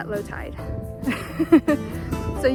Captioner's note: giggles